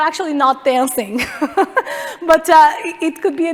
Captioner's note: laughter